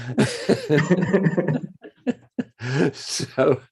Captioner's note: laughing